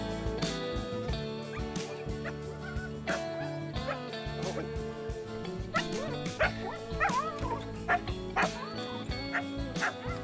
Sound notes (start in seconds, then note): 1.6 dogs yipping and barking; 1.6 gentle guitar music